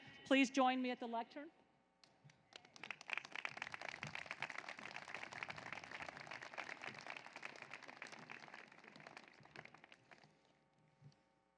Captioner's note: applause